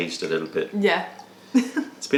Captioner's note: laughter